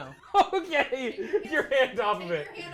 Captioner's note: laughing